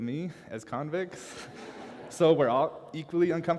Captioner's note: laughter